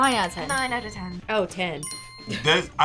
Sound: bell chimes

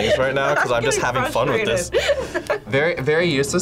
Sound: laughs

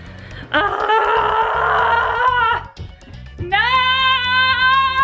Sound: groans

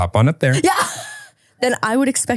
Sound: laughs

